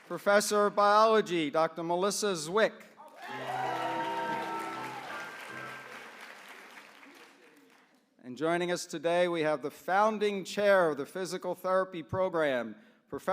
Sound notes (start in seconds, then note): 3.0 applause